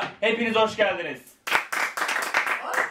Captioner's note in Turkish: Alkışlar